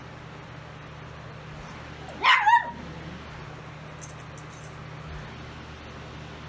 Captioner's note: Ella barks